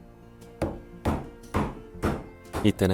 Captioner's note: hammering sound